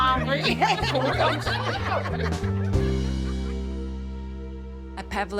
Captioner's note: everyone laughs